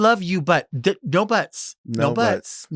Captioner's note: stammers